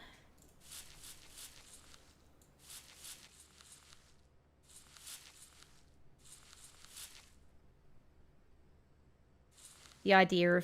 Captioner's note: sweeping/brushing sound